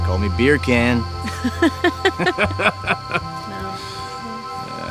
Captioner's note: both chuckling